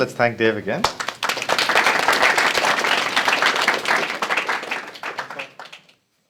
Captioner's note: applause